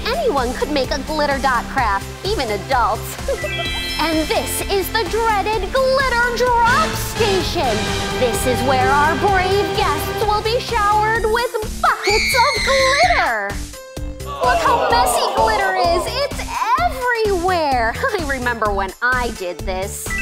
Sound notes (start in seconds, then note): 3.2 laughing; 11.9 screaming